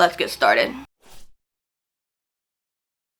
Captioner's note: whooshing sound